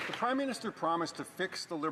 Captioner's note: some Applause